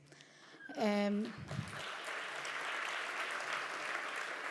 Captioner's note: audience applause